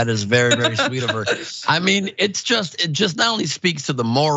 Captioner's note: laugh